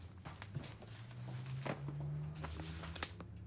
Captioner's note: none